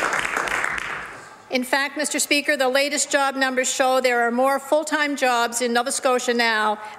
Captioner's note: some Applause